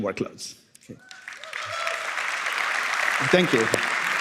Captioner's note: applause